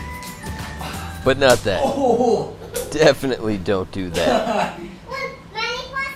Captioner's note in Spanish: está riendo de dolor